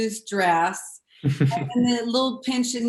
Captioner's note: giggles